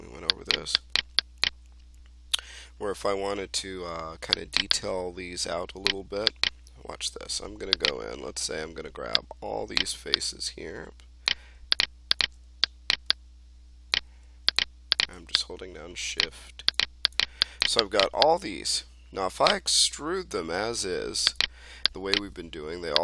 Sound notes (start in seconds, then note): 12.6 mouse clicking